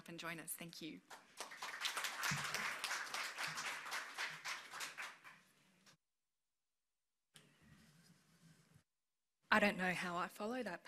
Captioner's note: applause